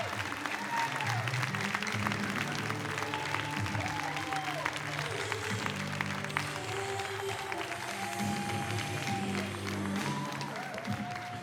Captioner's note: cheers and applause